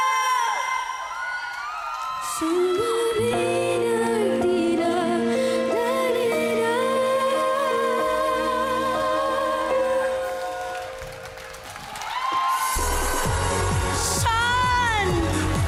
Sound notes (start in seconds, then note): 0.0 crowd cheers; 9.6 crowd cheers, applauds; 11.0 upbeat music playing